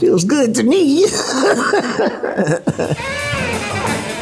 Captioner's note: laughs